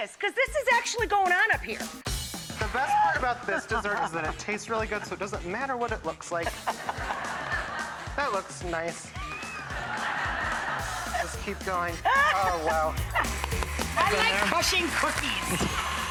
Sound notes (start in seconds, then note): 9.5 audience laughing; 11.9 laughing